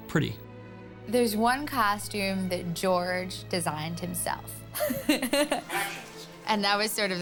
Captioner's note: laughing